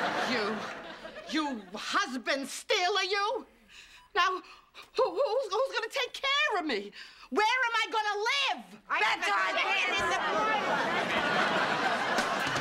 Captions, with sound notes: You... you husband stealer, you! Now, who-who's gonna take care of me? Where am I gonna live? ( shouting )